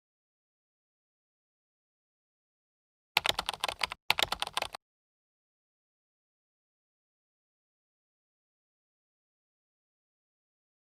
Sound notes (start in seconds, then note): 3.2 keyboard clicking